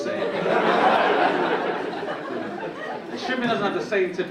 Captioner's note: audience laughing